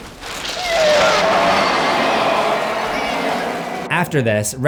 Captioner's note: screaming